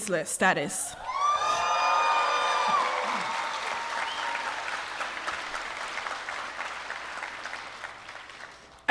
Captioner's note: applause